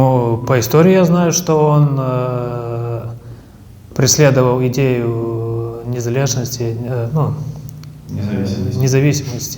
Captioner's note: says in Ukrainian